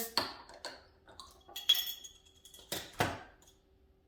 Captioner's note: bottle popping